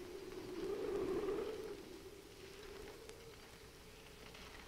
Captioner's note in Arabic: عواء الرياح المكتوم